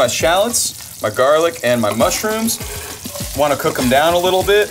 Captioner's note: pan sizzles